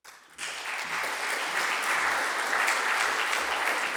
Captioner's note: audience applauding